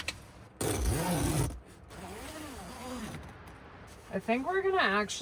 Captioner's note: zipper clicking